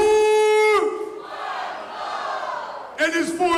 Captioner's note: crowd shouting